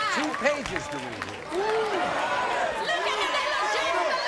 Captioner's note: audience groans